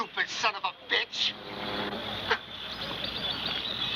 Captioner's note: chuckles